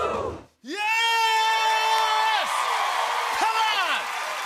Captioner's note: cheers and applause